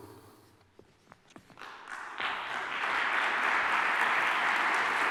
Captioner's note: applause